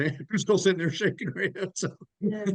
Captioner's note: laughs